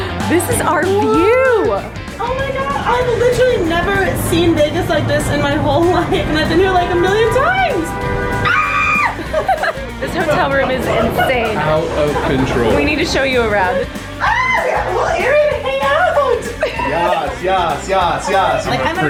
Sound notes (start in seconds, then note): 8.4 screams; 9.8 laughs; 14.2 screams